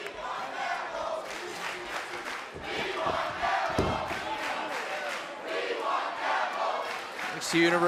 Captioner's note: fans chanting